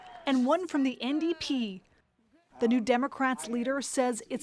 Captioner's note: speaking French